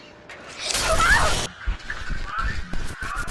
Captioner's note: electrical burst; donald's mom screams